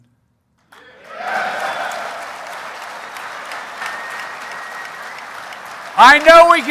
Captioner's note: applause